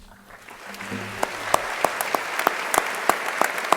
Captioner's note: crowd applauding